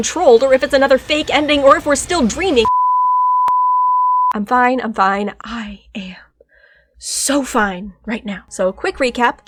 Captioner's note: deep breath